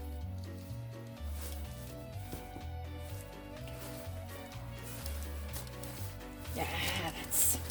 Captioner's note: paint in hand rumple squish noises